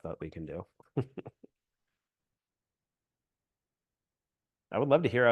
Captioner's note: chuckles